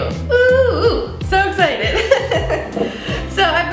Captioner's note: laughs